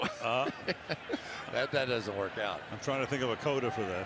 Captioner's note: chuckles